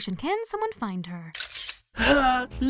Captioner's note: camera snap